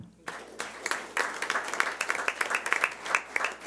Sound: clapping

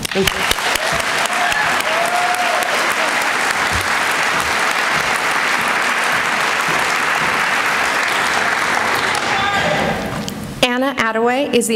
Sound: applause

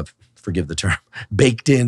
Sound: chuckles

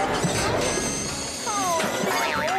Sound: clanging

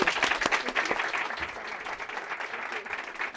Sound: applause

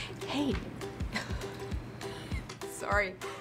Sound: laughing

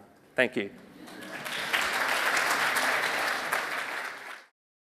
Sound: audience applauding

